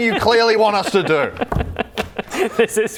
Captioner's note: evil laugh